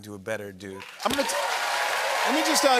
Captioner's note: cheers and applause